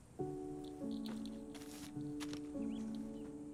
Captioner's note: none